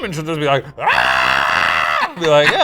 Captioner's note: screams